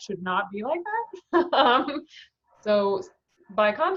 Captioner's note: laughing